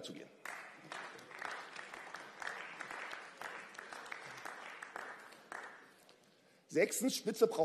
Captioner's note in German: Beifall